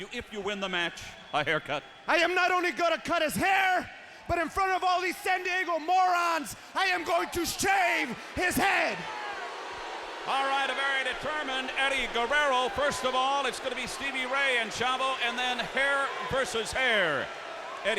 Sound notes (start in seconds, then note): 9.1 audience jeers